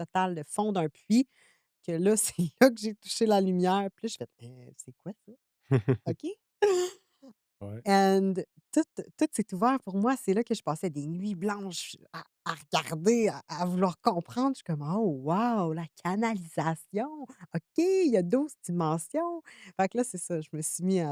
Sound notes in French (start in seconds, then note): 5.7 rires